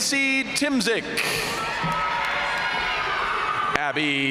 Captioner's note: audience cheering and applauding